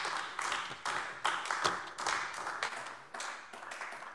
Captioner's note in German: Beifall AfD